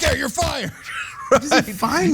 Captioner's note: laugh